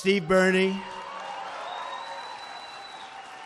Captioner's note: applause